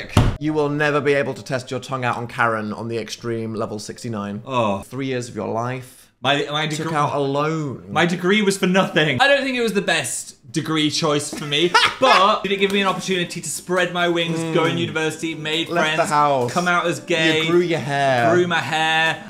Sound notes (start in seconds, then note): 11.6 laughing